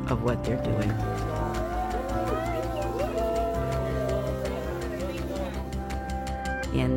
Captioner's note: people cheering